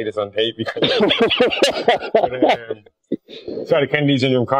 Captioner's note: laughs